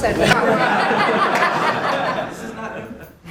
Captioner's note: laughter